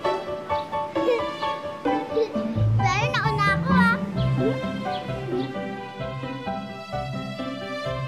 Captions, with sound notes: [giggling] I got here first, okay? [giggles]